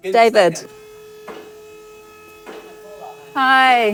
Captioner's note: machine whirring